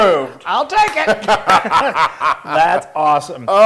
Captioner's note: laugh